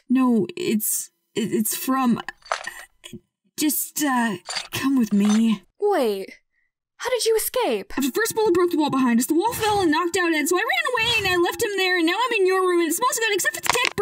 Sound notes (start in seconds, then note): 2.3 studders